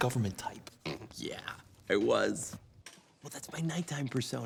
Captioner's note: snorts